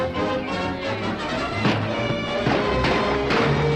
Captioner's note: gunshots and horses galloping